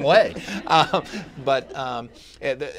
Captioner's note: laughter